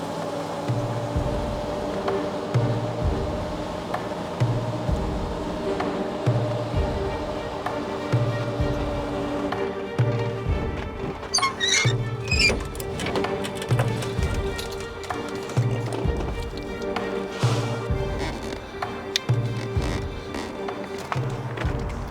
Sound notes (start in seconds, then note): 1.3 truck engine revving; 5.6 suspenseful music; 11.4 trailer squeaking; 18.6 boat creaking